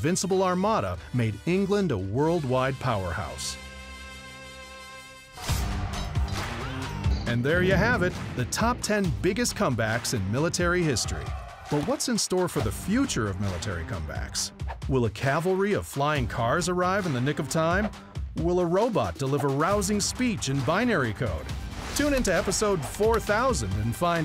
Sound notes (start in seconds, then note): 6.1 yells